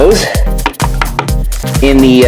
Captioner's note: taps cards